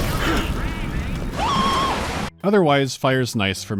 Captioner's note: scream